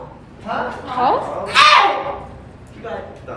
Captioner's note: guffaws; yells in excitement